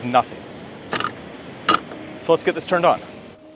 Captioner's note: gear clattering